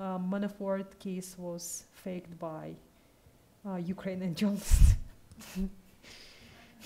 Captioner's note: laughs